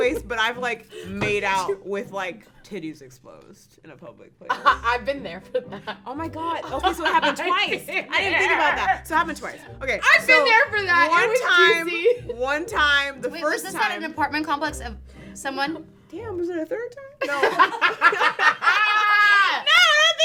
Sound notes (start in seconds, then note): 5.6 laughs; 7.6 laughs; 17.2 girls laugh